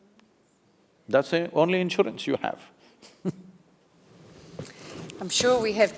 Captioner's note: laughs